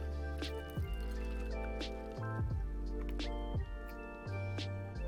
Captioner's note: liquid trickling